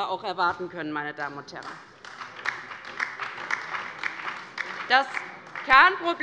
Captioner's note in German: Beifall bei der LINKEN - Anhaltende Unruhe - Glockenzeichen des Präsidenten